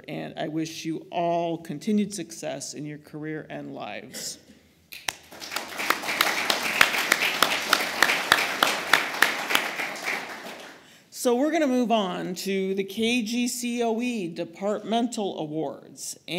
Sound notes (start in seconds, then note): 5.0 applause